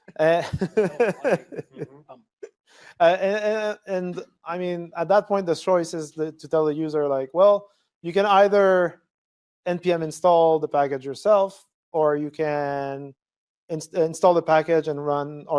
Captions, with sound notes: [LAUGHTER] And I mean, at that point, the choice is to tell the user like, well, you can either npm install the package yourself, or you can install the package and run.